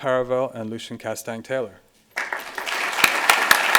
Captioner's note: applause